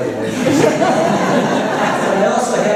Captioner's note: laughter